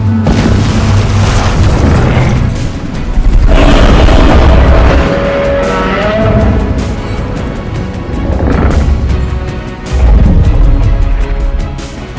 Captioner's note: Godzilla moaning